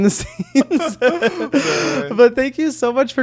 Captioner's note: both laughing